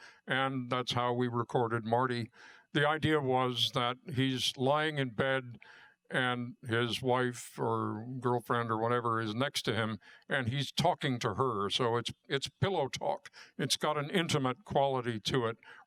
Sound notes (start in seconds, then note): none